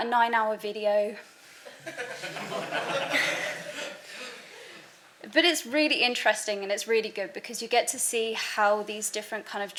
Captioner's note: background laughter